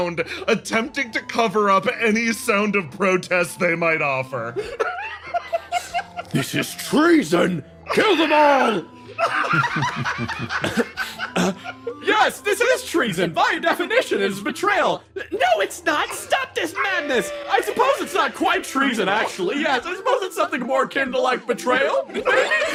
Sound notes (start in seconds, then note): 9.0 laughs; 16.6 Yaiyo screaming